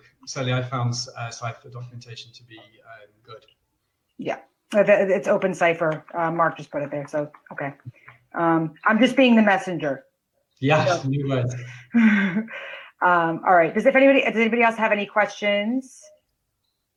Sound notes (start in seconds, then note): 10.6 laughs